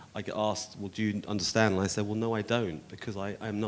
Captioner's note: none